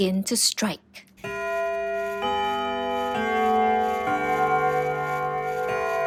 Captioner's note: clock chimes dramatically